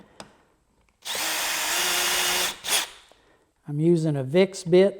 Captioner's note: drill buzzes